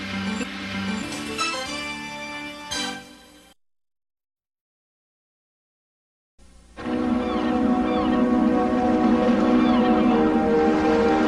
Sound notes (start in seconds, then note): 3.5 silence; 6.8 seagulls cawing as music plays